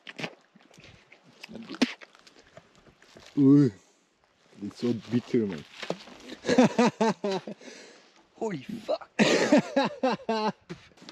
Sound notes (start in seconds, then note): 1.3 spits; 6.3 laughs; 8.9 laughs again; 9.1 coughs